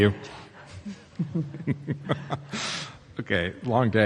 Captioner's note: panelists laugh